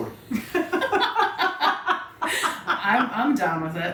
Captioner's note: women laughing